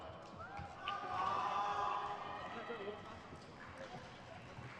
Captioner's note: crowd cheers